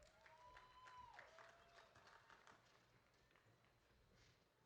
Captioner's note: audience applauding